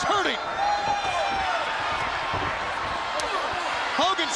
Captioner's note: audience cheering